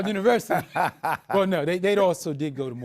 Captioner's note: laughing